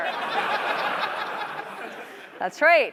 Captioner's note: laughter